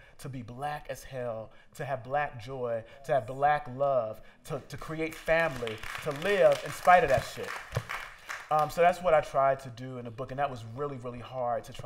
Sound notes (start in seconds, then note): 7.6 applause